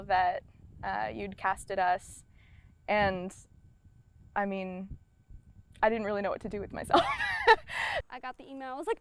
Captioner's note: laughs